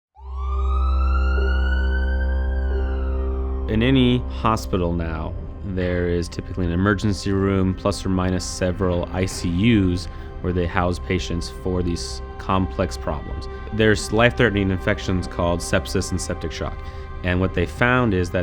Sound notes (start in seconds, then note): 0.1 emergency siren; 1.8 dramatic music